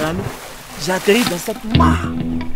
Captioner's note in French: plouf